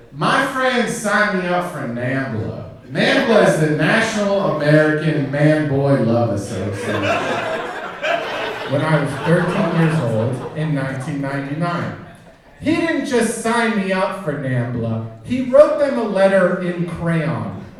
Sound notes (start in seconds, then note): 6.2 audience laughing